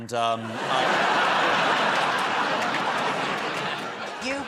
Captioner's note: laughter